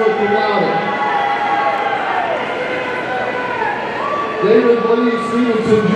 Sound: audience cheering

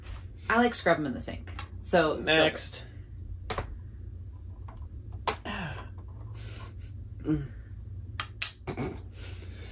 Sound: sounds of effort, moaning

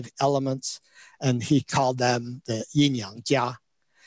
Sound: speaks in Chinese

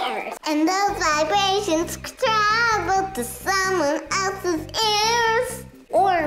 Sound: sing songy

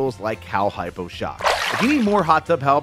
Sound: water splashing

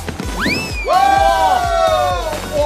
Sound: swoosh

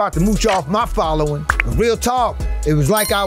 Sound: subscribe button pops

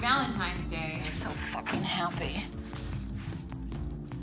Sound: frustrated voice

